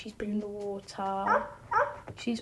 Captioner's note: barking